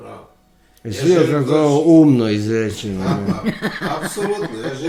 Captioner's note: laughter